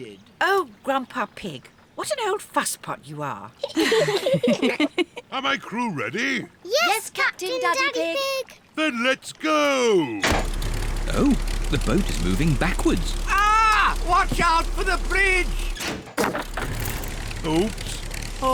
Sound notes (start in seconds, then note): 3.6 all giggle; 9.9 lever clunks; 15.9 crunching